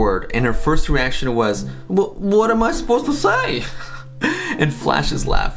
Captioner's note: laughs